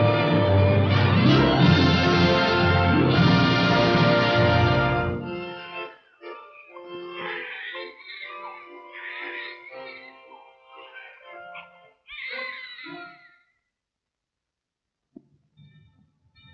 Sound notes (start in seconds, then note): 6.5 babies crying